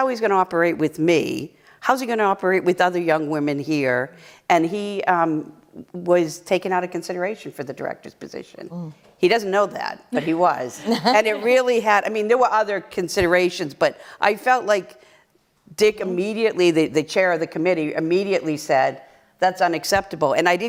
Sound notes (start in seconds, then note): 10.7 laughter